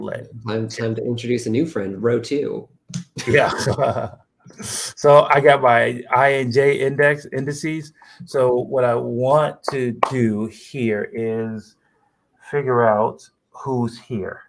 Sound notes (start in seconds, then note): 3.1 laughter